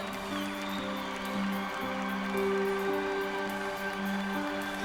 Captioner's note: cheers and applause